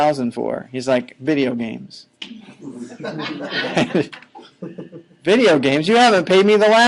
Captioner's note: laughing